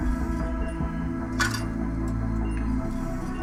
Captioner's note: bullet clinks